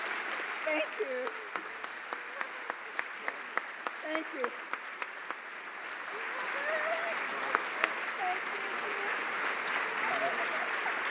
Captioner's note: applause